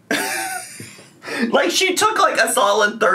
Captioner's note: laughing